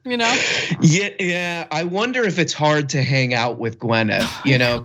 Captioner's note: laugh